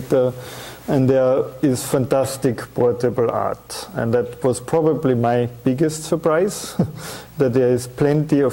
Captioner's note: chuckling